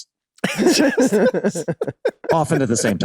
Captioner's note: Charlie and Rob laughing amusingly